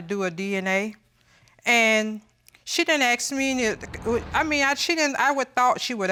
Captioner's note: stutters